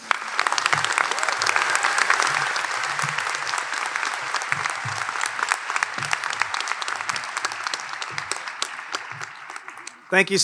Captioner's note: applause